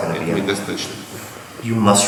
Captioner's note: speaking in a foreign language